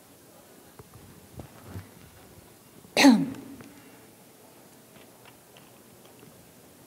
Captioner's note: pause